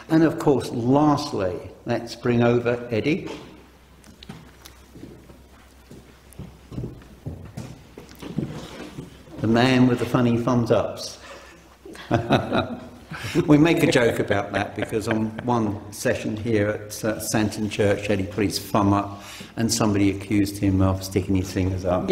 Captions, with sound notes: and of course, lastly, let's bring over Eddie, (shoes clopping) the man with the funny thumbs ups. (laughing) We make a joke about that because on one session here, at Santon Church, Eddie put his thumb up and somebody accused him of sticking his fingers up,